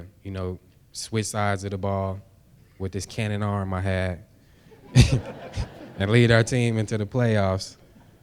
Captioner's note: laughter